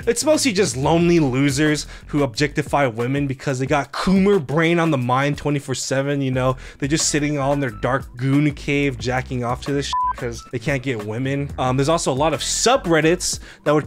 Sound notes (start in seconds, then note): 9.9 beep